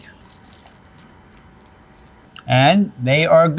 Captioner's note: crunching